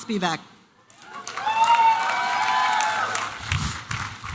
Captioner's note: applause and cheering